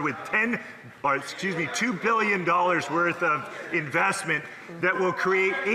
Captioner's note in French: voix de l'interprète